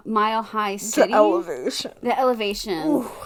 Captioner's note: gasp